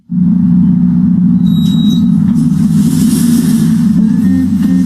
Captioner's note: machinery whirring; light music